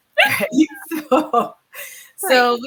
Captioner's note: all laughs